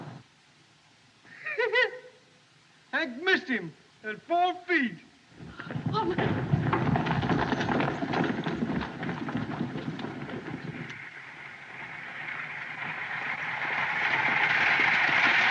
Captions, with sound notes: [ Laughs ] Hank missed him - at four feet. [ Woman Exclaims ]